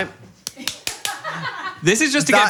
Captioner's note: people laughing